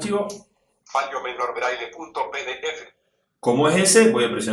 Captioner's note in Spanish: voz del dispositivo